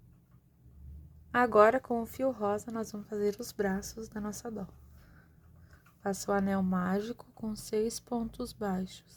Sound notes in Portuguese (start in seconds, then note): 2.2 sopro